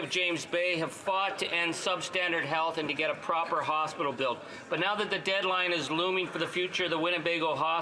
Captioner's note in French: voix de l'interprète